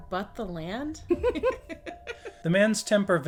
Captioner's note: giggles